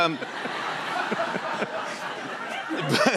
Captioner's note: laughter